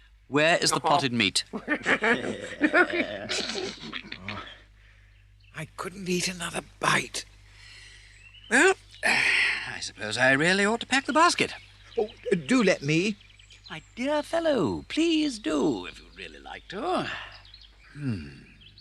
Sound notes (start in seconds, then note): 1.5 weasels snicker; 9.0 sighs deeply; 17.9 sighs